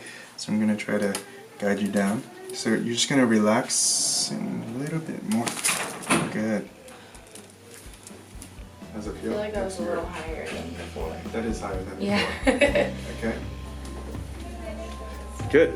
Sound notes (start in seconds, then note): 6.7 popping; 14.8 laughs